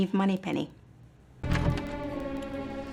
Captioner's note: tense music; click